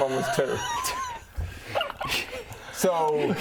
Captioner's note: chaos gremlin laughs